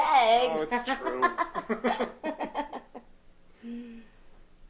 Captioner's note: laughing